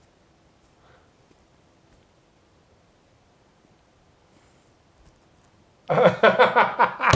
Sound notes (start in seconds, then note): 5.9 laughing